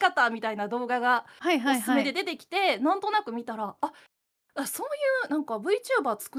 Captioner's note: laughs